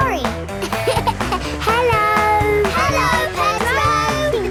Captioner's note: laughing